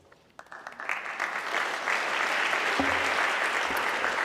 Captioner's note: audience clapping